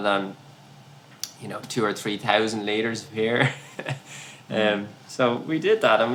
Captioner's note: laughs